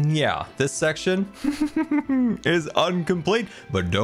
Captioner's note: giggles